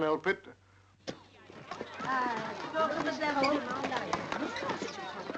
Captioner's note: people chattering